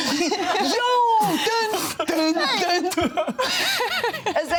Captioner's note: vocalizes; all laughing; laughs